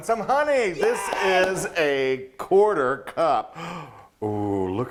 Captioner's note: cheering